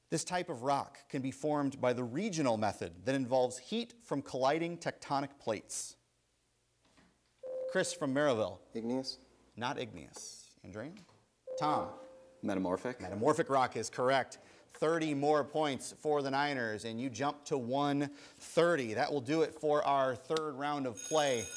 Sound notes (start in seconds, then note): 7.4 ding; 11.4 ding